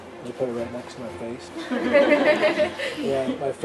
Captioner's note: audience laughing